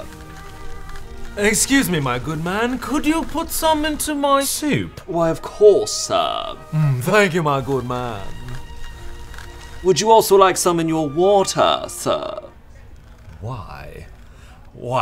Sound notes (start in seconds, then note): 0.0 cheese grates; 8.0 cheese grates